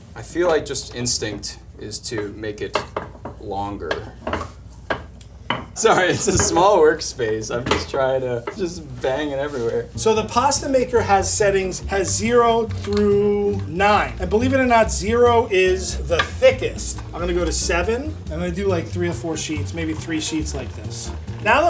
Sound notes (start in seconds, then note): 3.9 rolling pin clanking